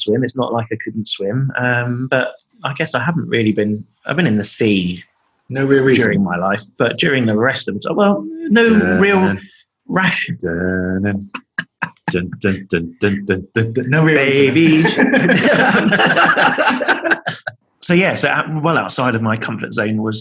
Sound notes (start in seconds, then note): 9.2 humming theme song; 10.0 laughing